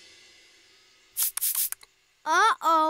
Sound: spraying sound

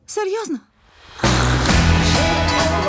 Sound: slurps

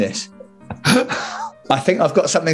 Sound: laughing

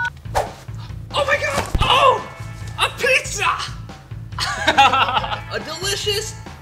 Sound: laughter

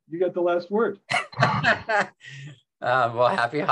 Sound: laughing

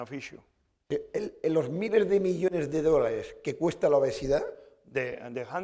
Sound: speaking spanish

